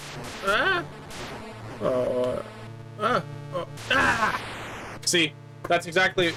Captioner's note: noises of concentration